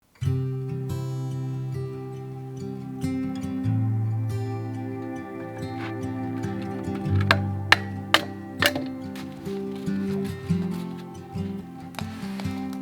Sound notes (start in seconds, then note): 0.1 gentle string music; 7.5 wood clattering